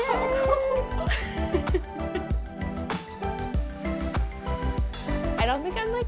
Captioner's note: laughs